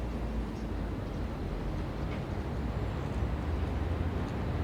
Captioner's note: gentle wind, birds chirping